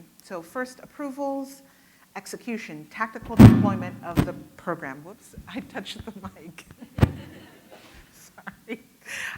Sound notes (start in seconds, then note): 7.0 audience laughing